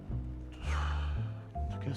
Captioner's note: exhales